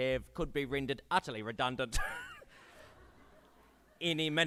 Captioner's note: laughs